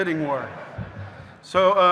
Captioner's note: audience laughing